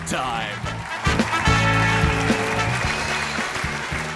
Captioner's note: applause